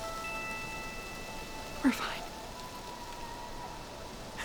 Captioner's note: coyote Howling In Distance